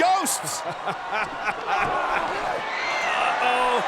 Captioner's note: laughs